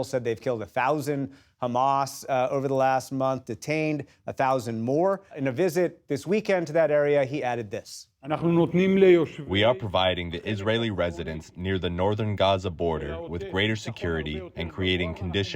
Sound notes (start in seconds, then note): 9.7 through translator